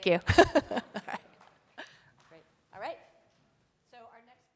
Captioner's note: laughs